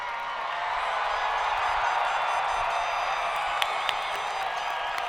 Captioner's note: audience cheering